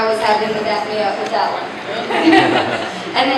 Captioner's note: laughter